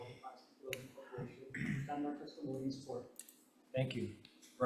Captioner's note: faintly speaking